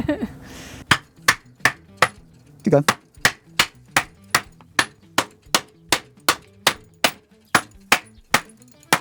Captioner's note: metal clanking